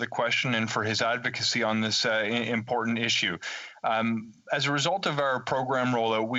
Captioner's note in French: voix de l'interprète